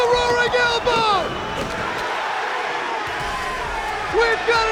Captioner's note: crowd cheering